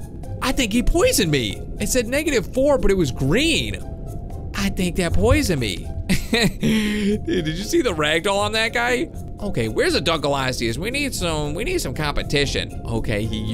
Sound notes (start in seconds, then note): 6.1 chuckles